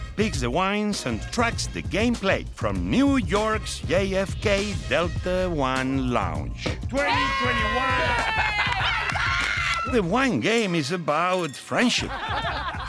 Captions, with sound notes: picks the wines and tracks the gameplay from New York's JFK Delta One Lounge. 2021. [cheering] [laughing] - Let's go! - The Wine Game is about friendship,